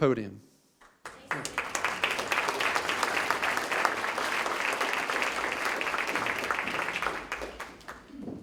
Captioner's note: applause